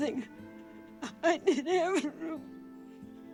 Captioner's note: sobbing